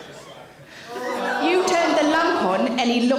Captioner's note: audience member groan